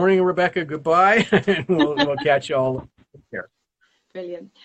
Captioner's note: laughs